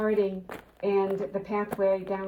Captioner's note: footsteps clomping